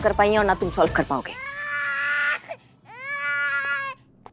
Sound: crying sounds

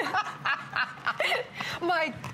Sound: laughter

